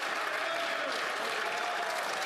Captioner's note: some Applause